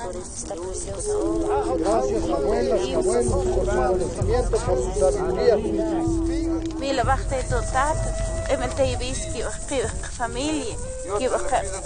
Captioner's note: speaks in foreign language